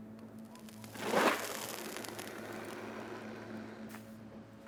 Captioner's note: cigar crackling